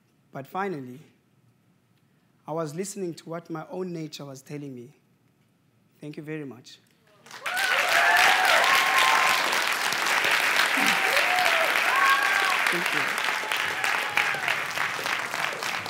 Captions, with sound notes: But finally, I was listening to what my own nature was telling me. Thank you very much. (Applause) (Cheers) Thank you.